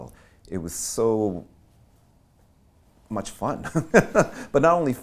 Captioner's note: laughing